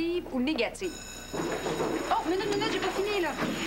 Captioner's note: La cloche sonne